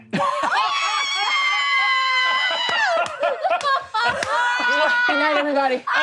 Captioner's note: laughing; yelling